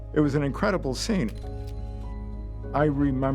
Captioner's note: camera shutter clicks